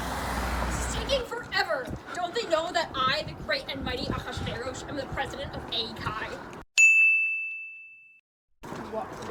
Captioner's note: ding